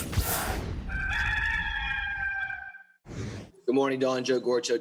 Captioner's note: rooster crowing